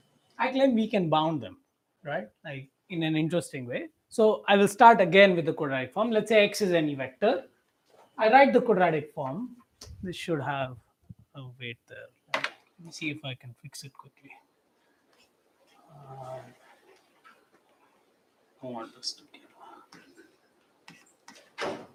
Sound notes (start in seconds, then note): 15.8 no speech